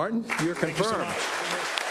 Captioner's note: applause